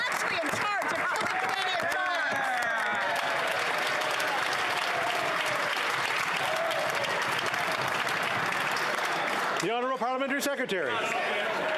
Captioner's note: yelling